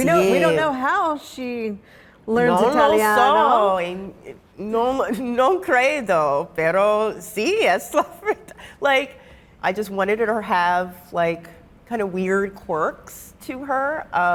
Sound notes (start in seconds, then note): 3.3 speaking in Italian